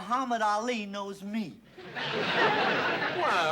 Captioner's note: laughter